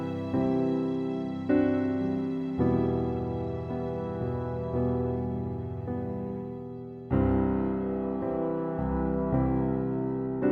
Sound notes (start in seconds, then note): none